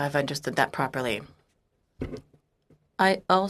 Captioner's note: speaking French